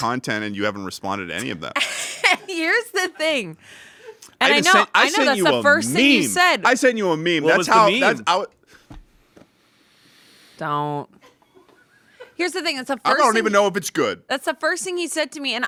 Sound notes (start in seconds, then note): 1.7 laughs